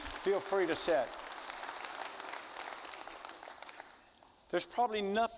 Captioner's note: audience applauding